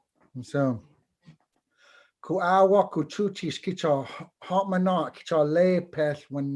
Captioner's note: foreign Language